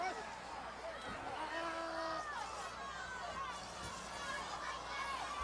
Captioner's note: audience shouting